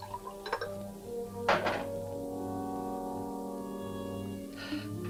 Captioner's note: whiskey sloshing; bottle clatters; dramatic music